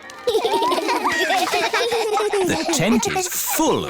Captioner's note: laughter